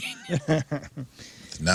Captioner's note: laughing